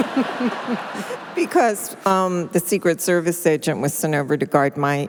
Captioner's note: laughter